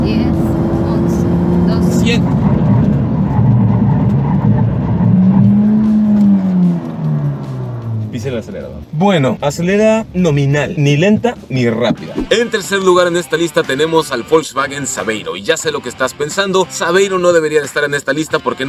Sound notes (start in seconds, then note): 0.0 engine revving; 0.0 tyres squealing; 2.5 engine revving; 2.5 tyres squealing